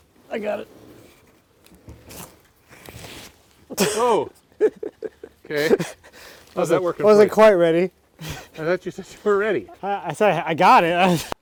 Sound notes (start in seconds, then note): 4.5 laughing